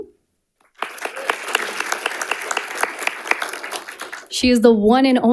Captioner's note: audience applauding